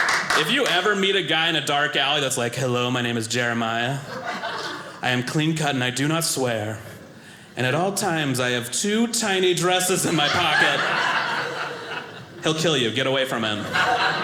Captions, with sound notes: If you ever meet a guy in a dark alley that's like, "Hello, my name is Jeremiah. "I am clean cut and I do not swear "and at all times I have "two tiny dresses in my pocket." (audience laughing) He'll kill you, get away from him,